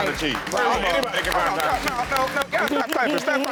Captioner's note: scattered applause